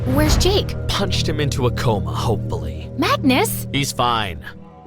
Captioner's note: none